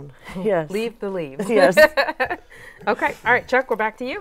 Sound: laughs

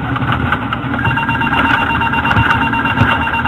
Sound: stall warning

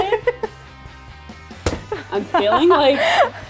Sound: both loudly laughing

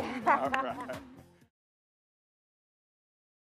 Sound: applause

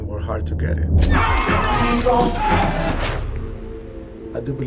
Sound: crowd shouting and cheering

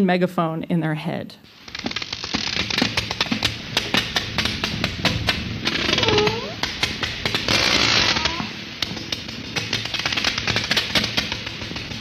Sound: ARCHIVE CLIP: Sperm whale clicks

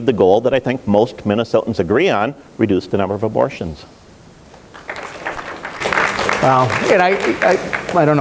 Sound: applause

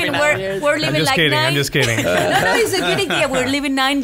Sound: laughs

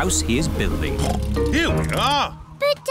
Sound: oinks

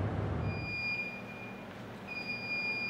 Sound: beep

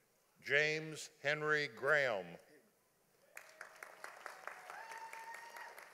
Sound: audience applauding

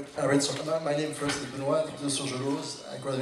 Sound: foreign language

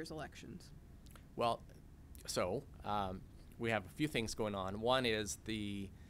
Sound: executive Director speaking

